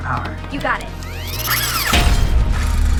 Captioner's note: clangs